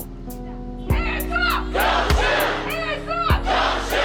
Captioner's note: crowd